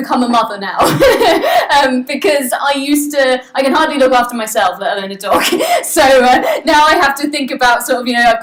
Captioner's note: laughs